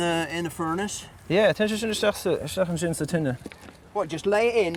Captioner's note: speaking Gaelic